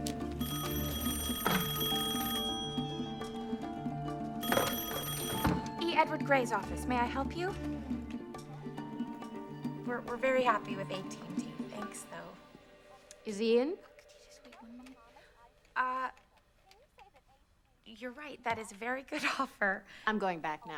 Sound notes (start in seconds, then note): 0.8 rings; 14.7 whispering